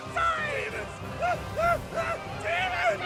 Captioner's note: screaming